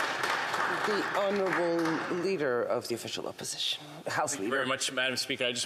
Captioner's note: applause